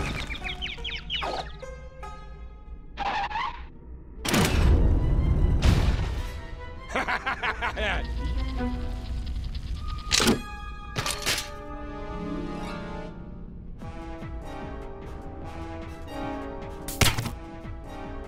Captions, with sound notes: (chirping) (screeching) HA HA HA HA HA!